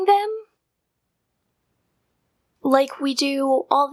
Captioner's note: silence